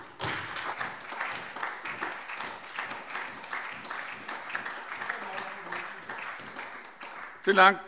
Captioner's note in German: Beifall SPD und DIE LINKE